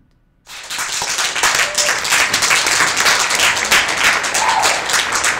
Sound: applause

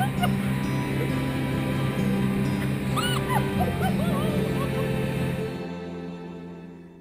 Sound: crying

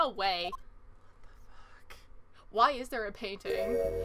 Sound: whispers

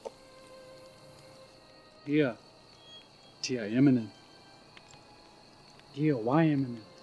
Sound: somber music; speaking in foreign language

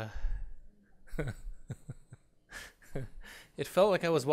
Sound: laughing

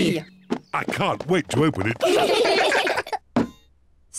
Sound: all giggle

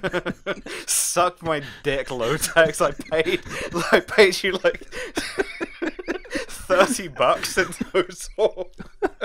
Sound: cracking up again

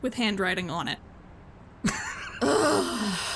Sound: laughs

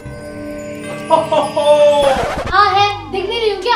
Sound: Santa laughing

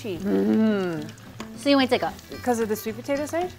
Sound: speaking in mandarin

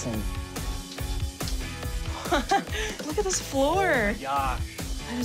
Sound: laughs

